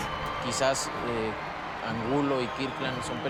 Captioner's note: speaking Spanish